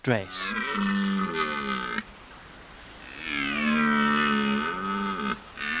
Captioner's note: deep, throaty calls